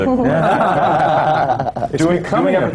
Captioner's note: laughter